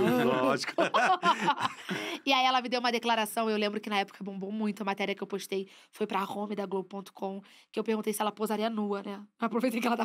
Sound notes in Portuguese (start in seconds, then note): 3.7 risos